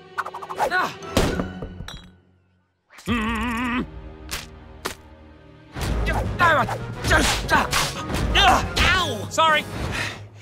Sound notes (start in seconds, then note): 3.0 grumbles; 5.6 grunting